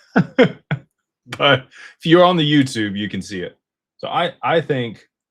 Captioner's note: laughter